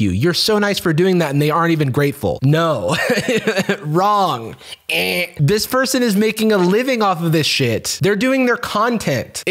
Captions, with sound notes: You're so nice for dong that and they aren't even grateful." No. (laughs) Wrong. Ehh. This person is making a living off of this shit, they're doing their content.